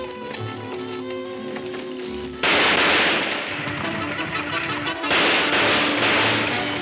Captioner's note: gunshots banging; dramatic music